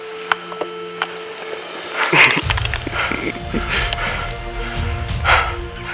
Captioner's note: excited breathing; music gets louder